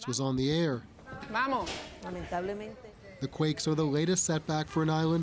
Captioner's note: speaking Spanish